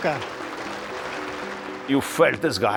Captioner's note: applause